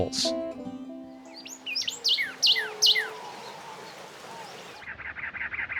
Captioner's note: birds chirping